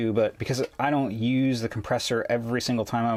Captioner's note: none